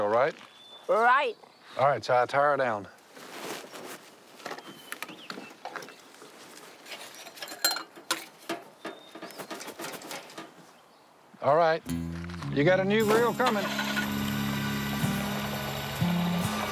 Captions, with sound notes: -Right. -All right, Si, tie her down. [clinks] All right. You got a new grill comin'.